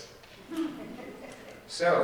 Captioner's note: audience laughing